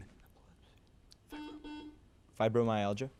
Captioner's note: buzzer buzzes